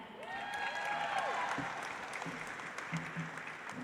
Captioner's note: audience applauds